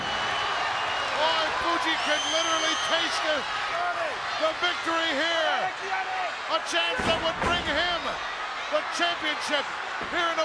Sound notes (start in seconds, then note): 5.5 Mr. Fuji speaks Japanese